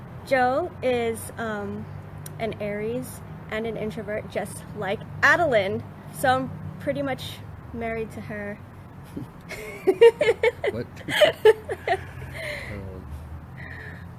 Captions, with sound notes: Joe is an Aries and an introvert just like Adeline. So I'm pretty much married to her. (laughs) - What?